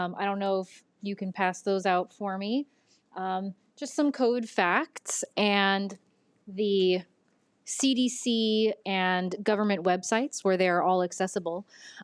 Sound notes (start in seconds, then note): none